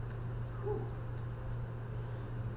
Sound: voiceover

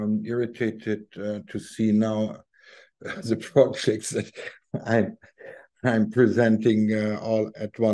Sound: chuckling

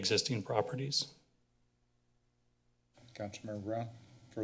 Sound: silence

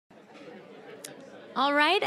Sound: general chatter

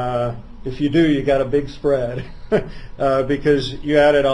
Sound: laughs

